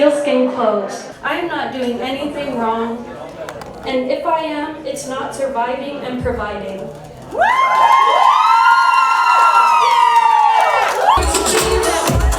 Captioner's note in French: Applaudissements